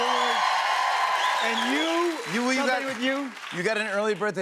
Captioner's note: cheers and applause